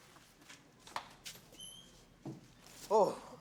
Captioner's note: door squeaks open